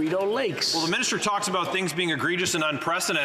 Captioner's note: applause